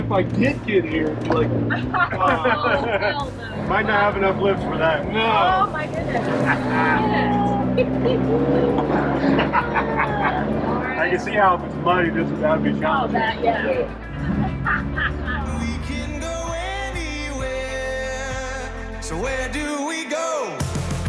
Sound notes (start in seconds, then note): 8.1 everyone giggles with excitement